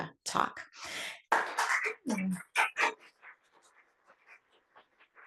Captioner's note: applause